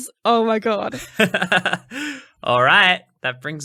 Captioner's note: laughing